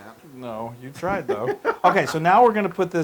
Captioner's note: laugh